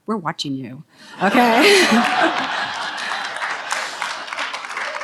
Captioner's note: audience laughs